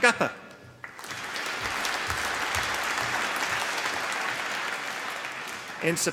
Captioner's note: applause